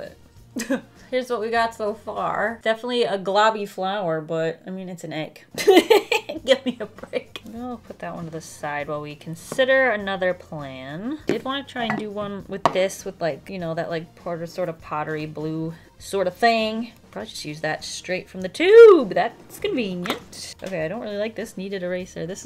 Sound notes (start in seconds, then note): 5.4 laughs